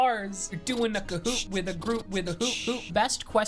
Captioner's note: beatboxing